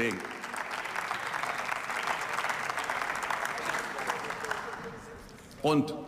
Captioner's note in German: Beifall